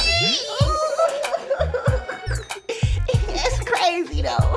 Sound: giggling

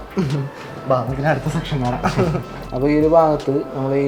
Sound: laughing

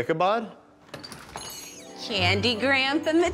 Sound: door jingle

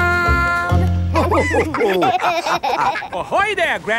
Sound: all laughing

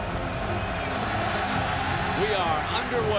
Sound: crowd cheers

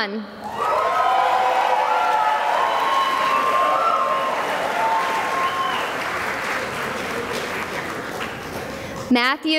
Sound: cheering and applause

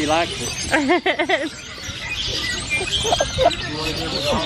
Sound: laughs

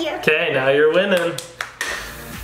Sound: upbeat music; clapping

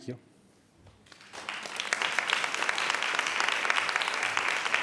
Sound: audience applauds

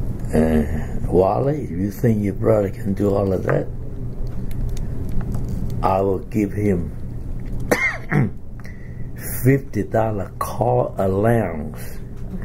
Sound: coughs

